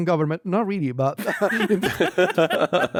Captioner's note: laughs